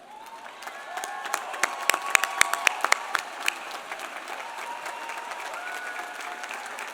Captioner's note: audience applauding; audience cheering